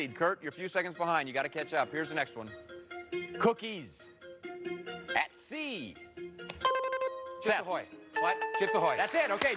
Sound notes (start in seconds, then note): 6.4 buzzer rings